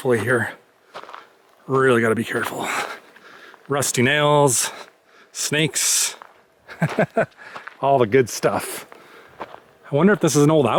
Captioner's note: laughter